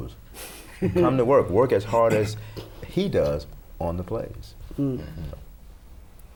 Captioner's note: laughter